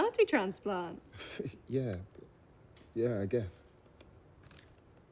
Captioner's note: chuckles